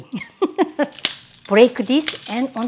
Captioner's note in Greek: γέλιο